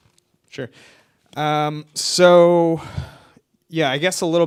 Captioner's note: none